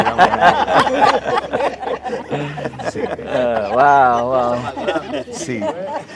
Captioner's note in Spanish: risas